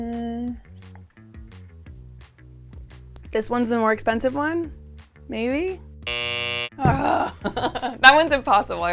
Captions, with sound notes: This one's the more expensive one, maybe? (buzzer sounds) (groans) That one's impossible.